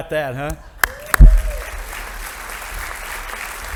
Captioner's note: audience applauding